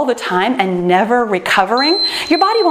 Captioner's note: timer beeps